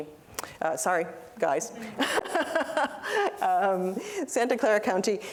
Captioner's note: laughter